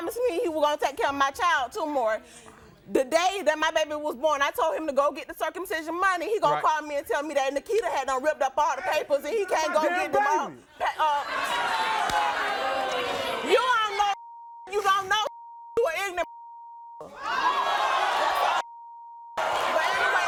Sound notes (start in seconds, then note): 11.0 audience boos; 17.2 audience yells